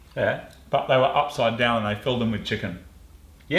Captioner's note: none